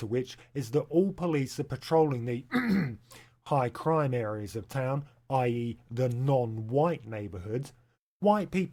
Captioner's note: ahem